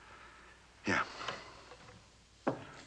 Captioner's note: closes Piano Lid